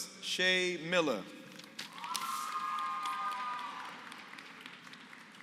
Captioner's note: applause